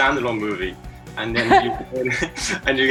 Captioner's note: laughs